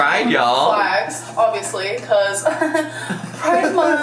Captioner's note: chuckles